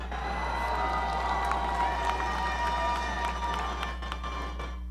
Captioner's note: audience cheering